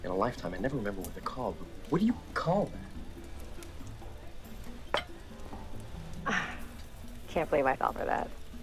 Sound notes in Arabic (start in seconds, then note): 5.5 يسخر